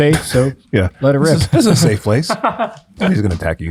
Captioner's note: friar laughs